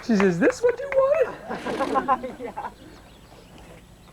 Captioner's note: laughter